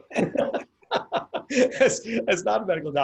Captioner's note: laughs